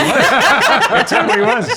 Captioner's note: all laugh